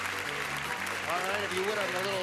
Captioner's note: clapping